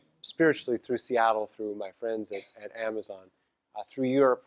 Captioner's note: cough